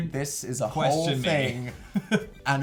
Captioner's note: laughs